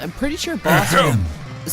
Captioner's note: ehem